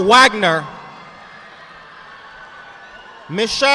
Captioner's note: audience applauding